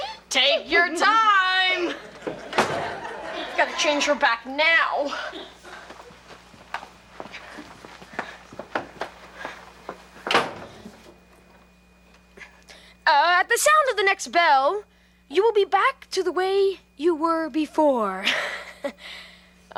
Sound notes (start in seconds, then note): 1.8 audience laughs; 10.2 door slams; 19.0 laughs